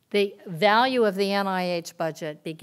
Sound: none

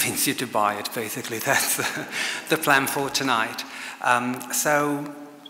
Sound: chuckles

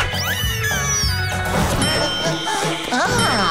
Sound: dinging

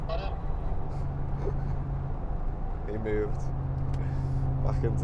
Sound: laugh

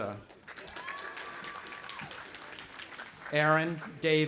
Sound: audience applauding

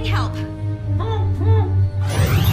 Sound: muffled grunts

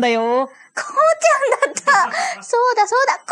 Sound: laughs

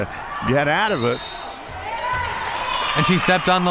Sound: whistle

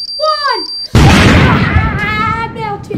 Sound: bomb explodes

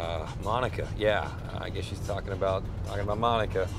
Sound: none

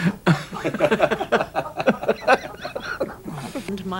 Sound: audience laughing

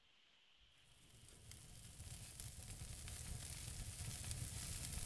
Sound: the fire crackles

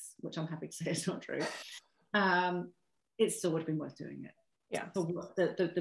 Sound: chuckle

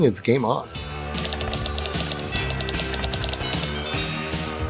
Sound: upbeat holiday music; keyboard typing

